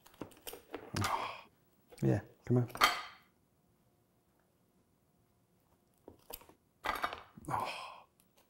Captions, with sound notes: [sigh] Yeah, come on. Oh, [sigh]